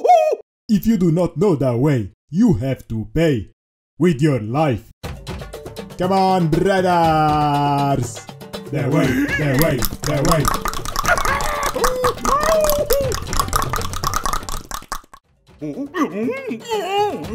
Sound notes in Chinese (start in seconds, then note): 6.2 召喚bgm再次響起; 15.2 大量彈舌